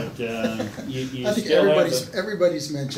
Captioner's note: laughs